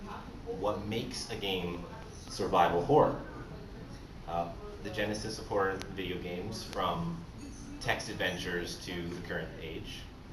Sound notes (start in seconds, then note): none